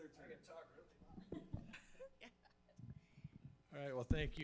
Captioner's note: board members chuckle